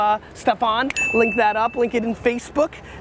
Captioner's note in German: Klingel läutet